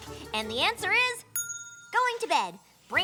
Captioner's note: ding